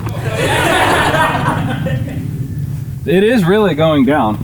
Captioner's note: crowd laughing